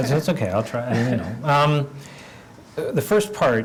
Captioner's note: laugh